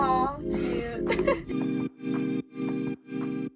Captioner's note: laughing; bright music